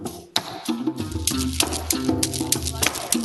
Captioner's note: applause